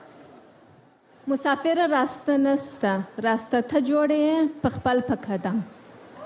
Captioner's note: speaks in foreign language